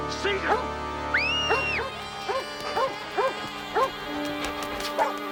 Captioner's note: Laura screaming